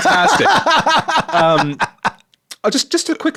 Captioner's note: laughing